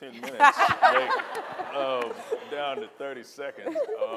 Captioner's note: audience and panelists laughing